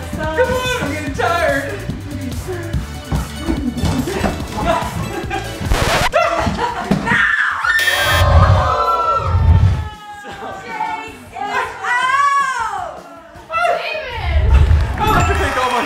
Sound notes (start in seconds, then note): 5.6 record scratches; 7.8 buzzer; 15.0 cheering